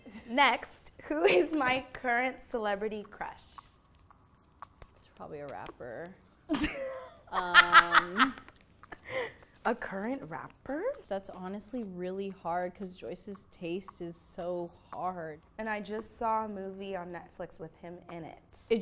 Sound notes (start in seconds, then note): 6.5 laughing loudly